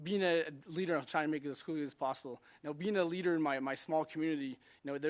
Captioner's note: speaking French